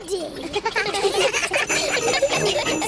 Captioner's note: all giggling